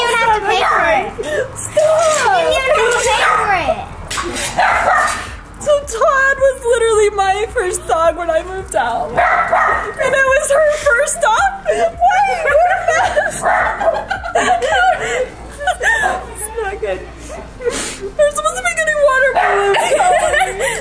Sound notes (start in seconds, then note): 12.1 crying and laughing